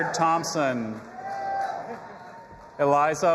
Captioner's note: audience applauding and cheering